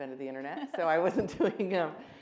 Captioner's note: all laughing